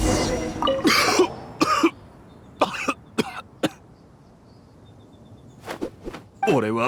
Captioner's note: coughing